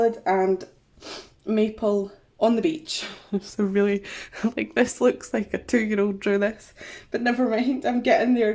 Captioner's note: laughs